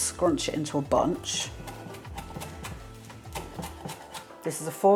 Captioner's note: chop chop chop